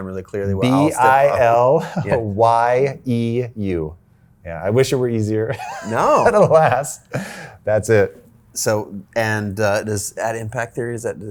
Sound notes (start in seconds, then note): 0.6 chuckles; 5.5 chuckles; 5.5 laughs